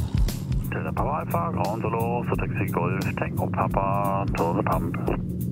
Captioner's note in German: über Funksprech